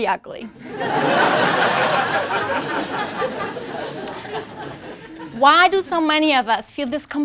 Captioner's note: laugh